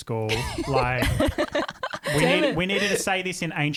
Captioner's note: laughing together